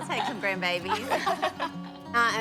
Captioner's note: laughter